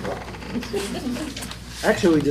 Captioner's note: laughter